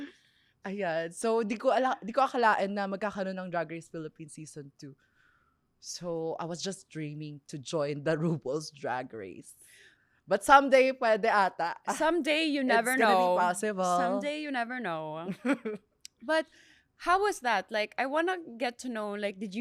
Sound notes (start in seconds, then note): 11.8 laughs; 15.4 laughs